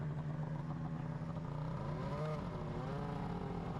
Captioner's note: engine humming continues